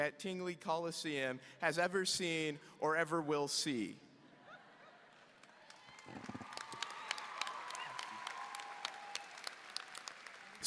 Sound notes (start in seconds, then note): 4.4 audience laughing; 5.4 audience applauding